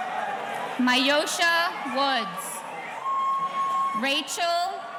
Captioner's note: audience cheering